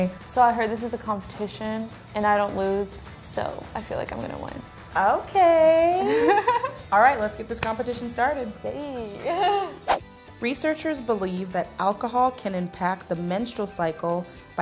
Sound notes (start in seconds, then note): 6.0 laughs; 8.9 both laugh